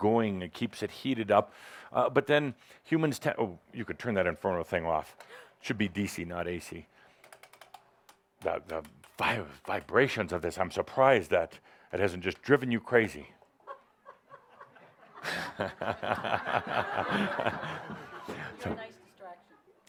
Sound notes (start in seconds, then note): 13.6 laughter as she makes a face